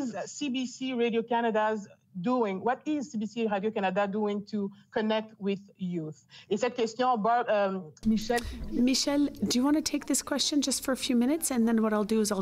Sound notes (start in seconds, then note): 6.3 speaking French